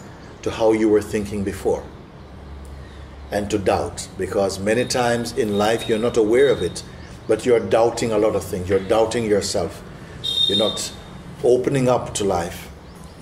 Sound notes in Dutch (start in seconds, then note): none